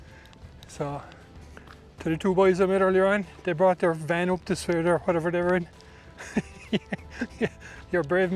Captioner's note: laughter